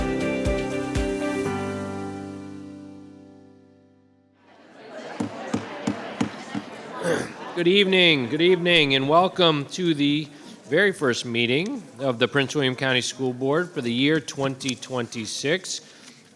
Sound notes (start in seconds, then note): 4.9 group chattering; 5.7 gavel thudding